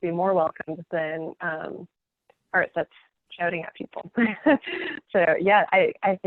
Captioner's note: laughing